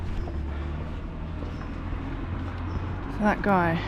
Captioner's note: car drives off